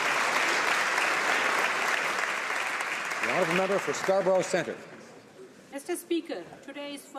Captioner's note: applause